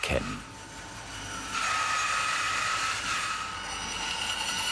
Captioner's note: sobbing sawing noises